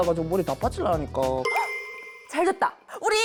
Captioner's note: sound effect of brilliant idea